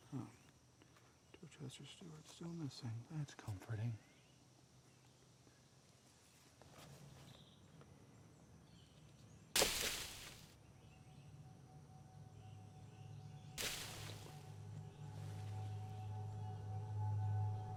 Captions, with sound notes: Huh, Dorchester Stewart still missing. That's comforting. (leaves rustling) (tense music) (leaves rustling)